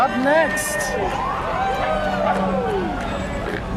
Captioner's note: crowd cheering